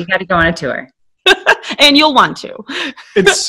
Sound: laughing

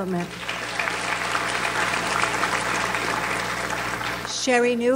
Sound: audience applauds

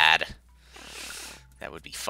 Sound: inhaling

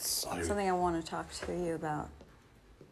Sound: none

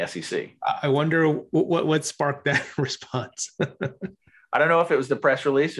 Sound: laughs

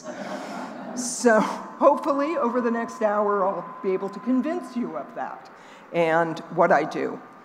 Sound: laughing

